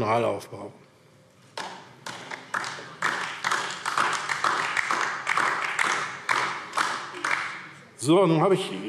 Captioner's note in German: Beifall DIE LINKE